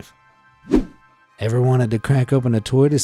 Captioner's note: image whooshing